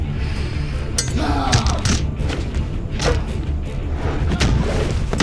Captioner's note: thudding